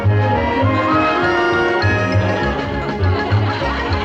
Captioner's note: laughter